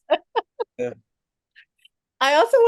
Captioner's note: everyone laughing